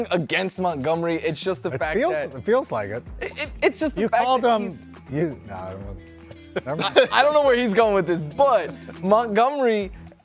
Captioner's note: laughter